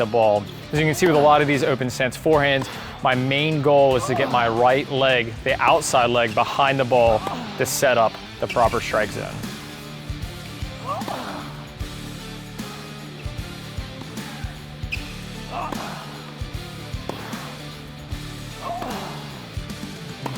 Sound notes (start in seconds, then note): 10.6 upbeat music; 13.4 tennis ball thumping; 15.8 grunting